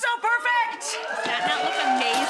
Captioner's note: audience cheering and applauding